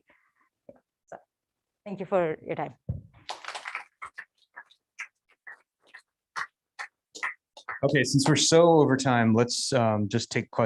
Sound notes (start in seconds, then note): 3.2 applause